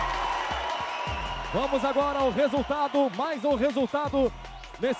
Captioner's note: announcer speaking Portuguese